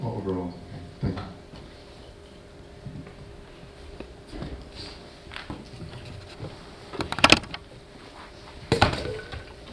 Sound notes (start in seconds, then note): 4.7 mic clacking and thudding